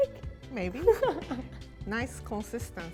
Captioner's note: laughs